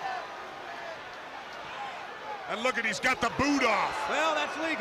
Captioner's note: crowd chatter